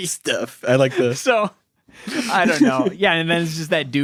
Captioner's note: laughs